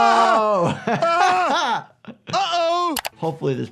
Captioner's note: laughs